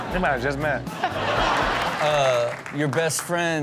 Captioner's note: audience laughs